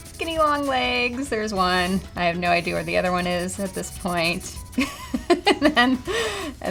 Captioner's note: laugh